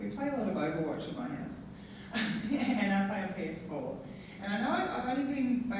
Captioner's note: laughing